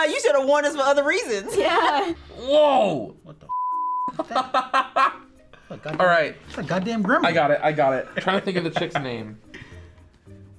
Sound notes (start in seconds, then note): 4.1 laughs